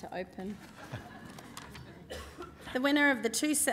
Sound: laughing

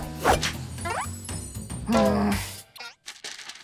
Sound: groaning

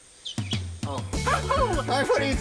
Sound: laughs

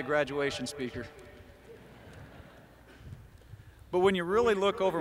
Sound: laughter

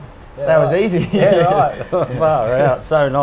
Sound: laughs

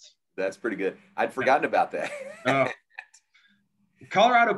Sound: laughs

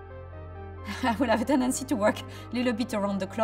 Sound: laughs

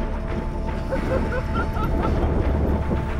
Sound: laughing

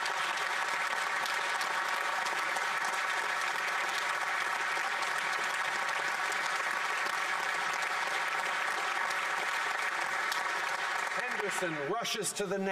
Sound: applause

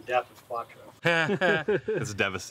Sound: nervous laughing

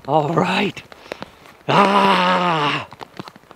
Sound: exclaims

